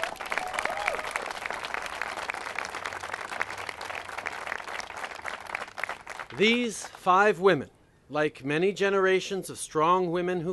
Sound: applause

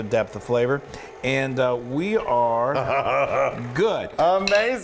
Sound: laugh

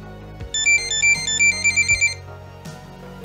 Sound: electronic beeping

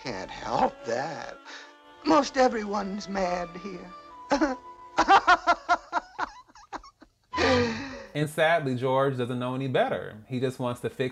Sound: laughter

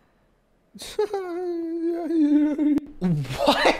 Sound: giggles

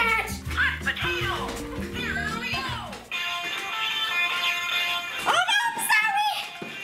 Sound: Hot Potato game sound effects

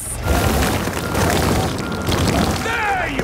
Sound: rock crumbling

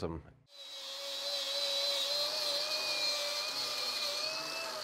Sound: drill whirring

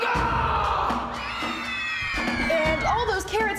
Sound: kids scream

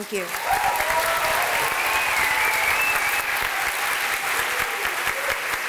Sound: applause

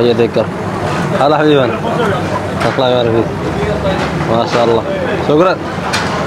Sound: Arabic

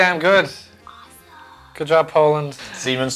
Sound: whispers

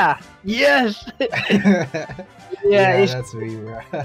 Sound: laughs

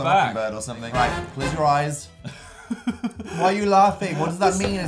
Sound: chuckles

